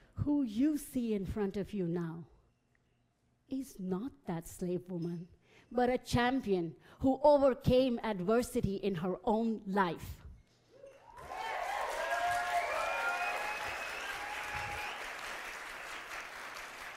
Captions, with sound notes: Who you see in front of you now is not that slave woman, but a champion who overcame adversity in her own life. (audience applauding)